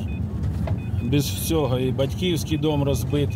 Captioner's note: beeps